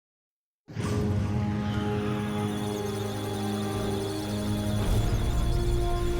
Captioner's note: musical tones; electronic sounds of data